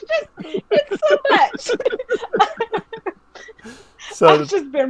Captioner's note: laughing